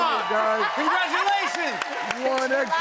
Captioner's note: cheers and applause